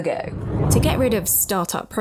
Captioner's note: air whooshing